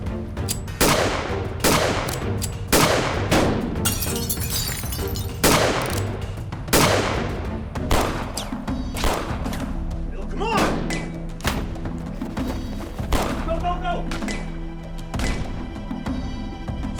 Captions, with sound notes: [GUNFIRE] [WINDOW BREAKING] [GUNFIRE] BILL, COME ON! GO, GO, GO!